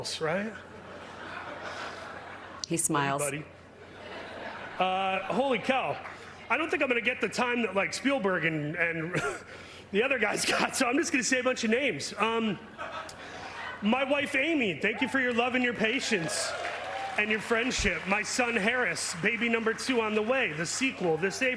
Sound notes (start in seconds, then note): 12.6 laughter